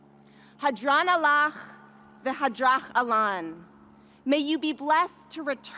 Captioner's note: speaking in a foreign language